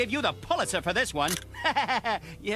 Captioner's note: laughter